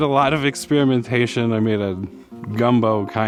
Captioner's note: chipping sounds